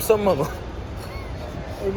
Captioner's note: laugh